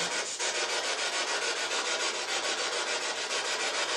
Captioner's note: scratching